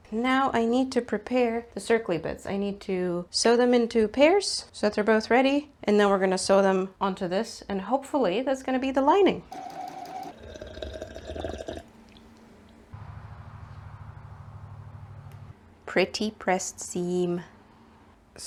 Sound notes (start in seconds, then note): 9.5 sewing machine noises; 9.5 sipping water noises